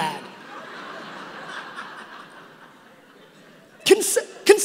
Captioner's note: audience laughing